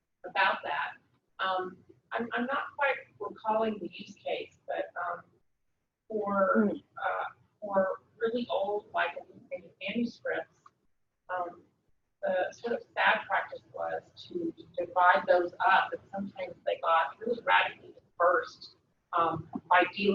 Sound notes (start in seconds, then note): 12.6 speaking away from mike